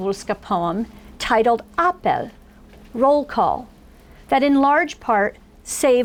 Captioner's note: foreign language